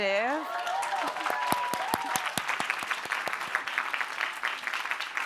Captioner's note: applause